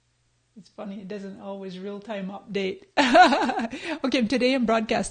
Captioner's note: laughs